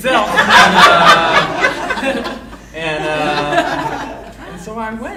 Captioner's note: audience laughing